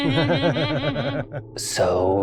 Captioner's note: group chuckles